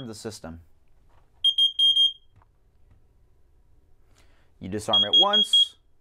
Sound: beeping

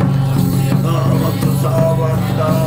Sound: chanting

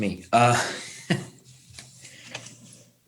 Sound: laughing

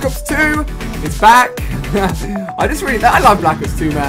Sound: laugh

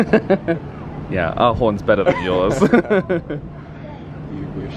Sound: laughs

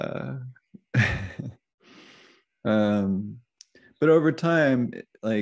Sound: chuckles

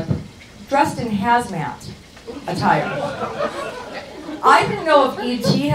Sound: audience chuckles

